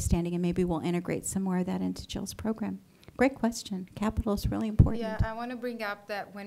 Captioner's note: none